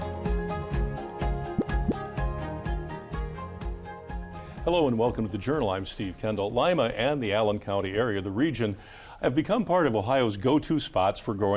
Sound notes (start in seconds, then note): 0.0 upbeat music fading; 1.5 graphic pops